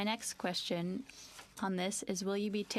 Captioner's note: speaking French